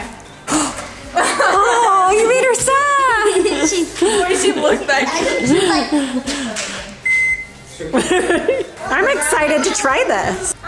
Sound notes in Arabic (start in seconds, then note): 1.1 تضحك; 7.9 تضحك